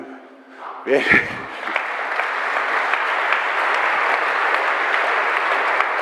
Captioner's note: applause